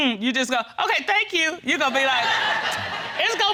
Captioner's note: audience laughing